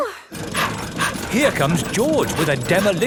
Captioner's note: daddy pig panting